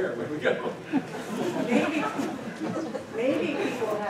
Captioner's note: laughter